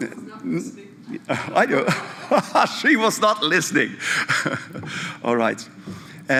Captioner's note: laughter